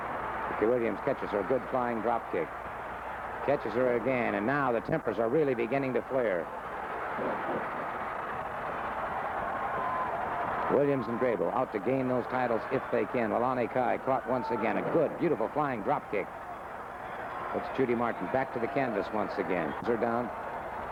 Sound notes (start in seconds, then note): 7.0 crowd cheering